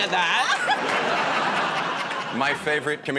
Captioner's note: laughter